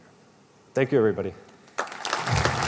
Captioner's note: applause